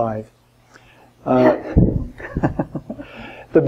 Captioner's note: laughs